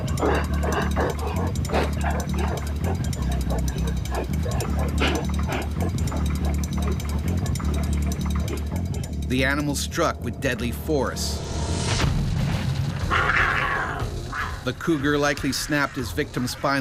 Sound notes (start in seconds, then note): 0.1 suspenseful music; 3.4 cougar panting